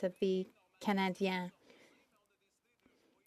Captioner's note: speaking French